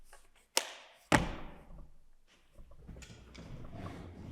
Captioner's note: clipboard thuds